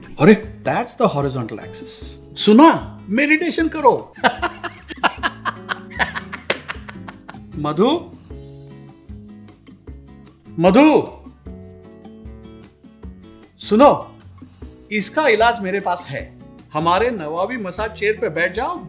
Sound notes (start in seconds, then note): 4.1 laughter